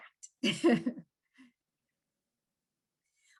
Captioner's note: chuckles